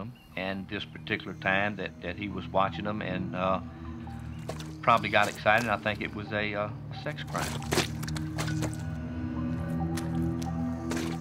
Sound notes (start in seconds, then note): 7.9 footsteps